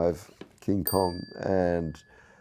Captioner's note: bell chimes